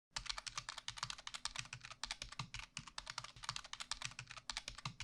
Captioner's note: keyboard clicking